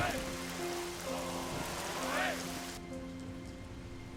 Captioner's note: oarsmen continue calling